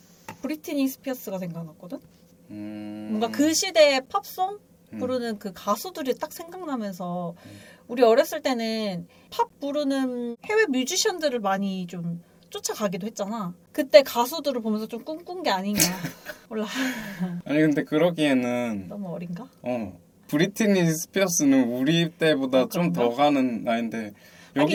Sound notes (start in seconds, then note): 15.8 laughs